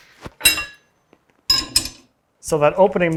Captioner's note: metal clangs